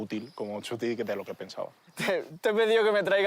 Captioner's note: laughs